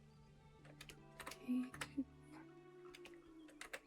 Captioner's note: keyboard clicking